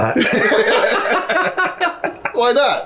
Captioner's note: laughing